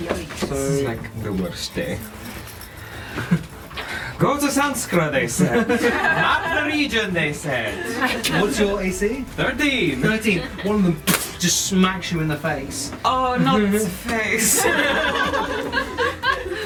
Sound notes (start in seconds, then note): 11.0 hitting noise; 14.4 laughter